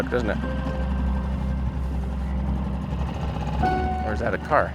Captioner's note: boat whirring; slow suspenseful music